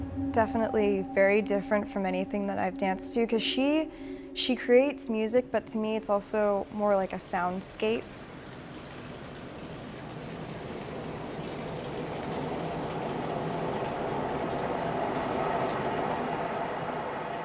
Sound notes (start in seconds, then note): 8.6 rain pounds; 12.9 wind roars